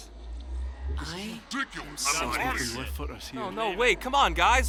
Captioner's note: Nether prisoners mumble angrily among one another